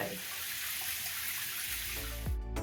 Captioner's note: shower